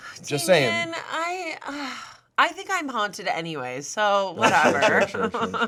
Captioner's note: groans